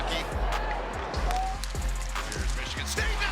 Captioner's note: sticks hitting